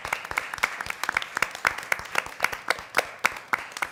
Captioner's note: applause